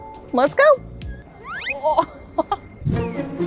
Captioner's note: audio whistling; laughs; quirky music